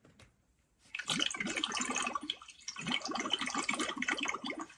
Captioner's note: water gurgles